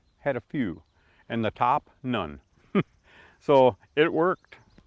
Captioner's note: chuckles